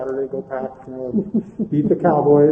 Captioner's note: laughing